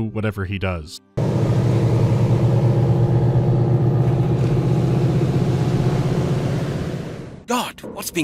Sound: grumbling of the boat engine

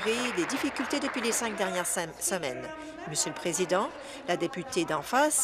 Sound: applause

